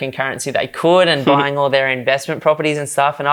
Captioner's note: chuckles